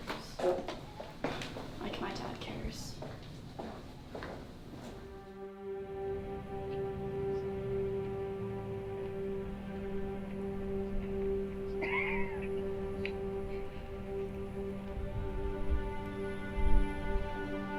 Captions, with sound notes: - Like my dad cares. (melancholy music) (Ernesto coughing)